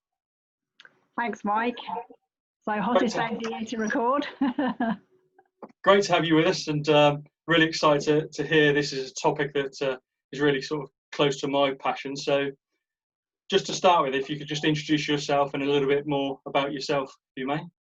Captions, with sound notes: - Thanks, Mike. (laughing) - Great to have you with us and really excited to hear. This is a topic that is really sort of close to my passion. So just to start with, if you could just introduce yourself and a little bit more about yourself, if you may.